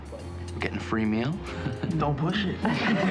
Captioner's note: all laugh